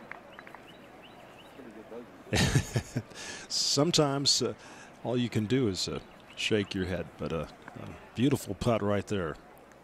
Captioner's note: applause